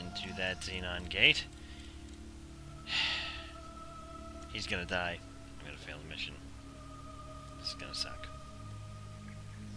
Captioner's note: sigh